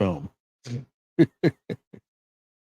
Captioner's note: laughing